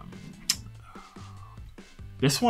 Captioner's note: lips smack